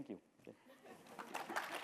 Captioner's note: applause